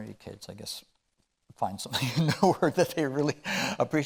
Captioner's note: chuckling